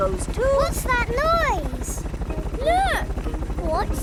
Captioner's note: helicopter approaching